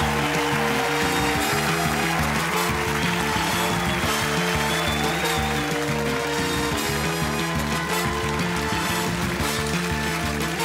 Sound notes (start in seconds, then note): 4.2 crowd applauds and cheers; 7.8 outro music playing